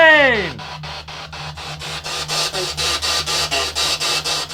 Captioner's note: static crackling